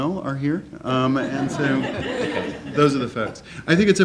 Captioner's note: laughing